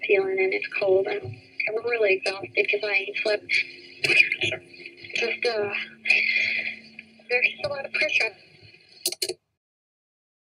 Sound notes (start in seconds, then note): 7.0 stopping of a tape sound